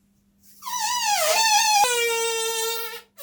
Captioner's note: fake fart noises